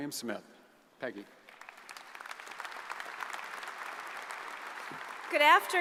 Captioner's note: audience applauds